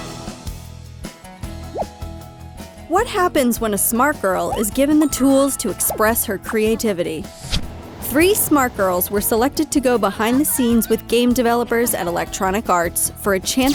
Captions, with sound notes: - [Voiceover] What happens when a smart girl is given the tools to express her creativity? Three smart girls were selected to go behind the scenes with game developers at Electronic Arts for a chance